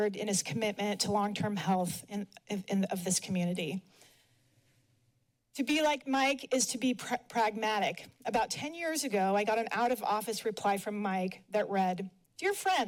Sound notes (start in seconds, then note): 3.9 pause